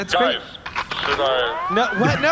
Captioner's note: blaster charging noise